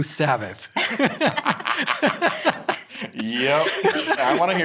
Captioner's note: all laughing